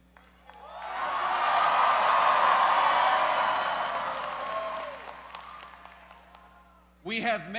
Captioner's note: cheers